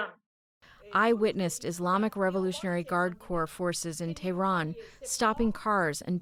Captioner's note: through translator